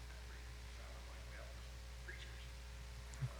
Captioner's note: man speaking off mic